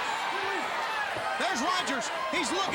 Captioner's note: crowd cheering